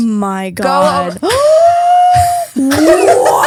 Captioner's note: gasps